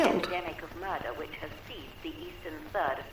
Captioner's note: radio Announcer